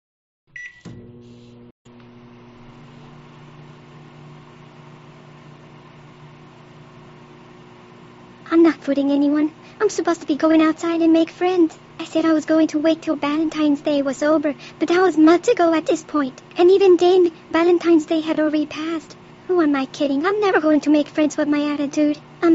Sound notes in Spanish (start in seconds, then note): 0.5 pitido y zumbido del microondas